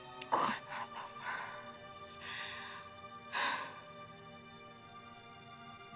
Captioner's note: sighs